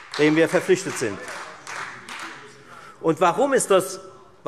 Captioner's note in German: Beifall Freie Demokraten und SPD